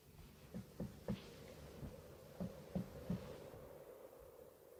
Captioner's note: knocking on glass